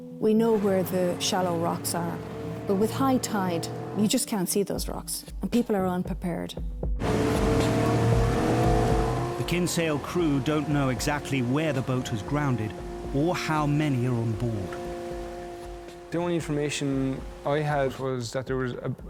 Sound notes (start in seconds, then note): 7.0 boat droning; 14.8 boat droning; 14.8 water whooshing